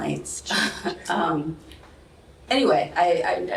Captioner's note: laughter